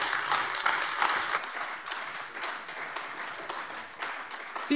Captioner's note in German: Beifall AfD